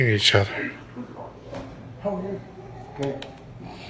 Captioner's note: soundbite of archived recording